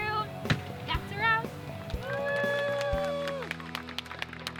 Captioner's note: crew applauds